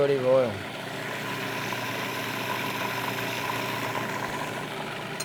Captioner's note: food processor whirring